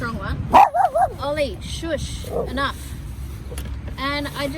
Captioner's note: Ollie burts out with loud barking; Ollie grrs